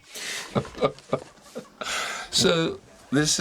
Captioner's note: chuckles